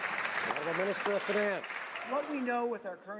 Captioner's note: some Applause